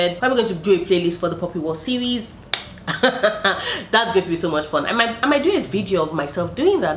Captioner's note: laughs